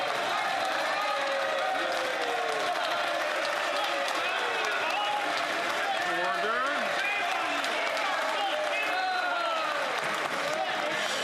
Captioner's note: some Applause